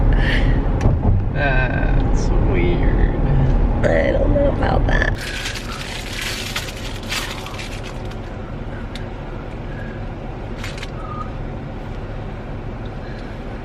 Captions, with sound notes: Uh...that's weird. I don't know about that. [plastic crinkling]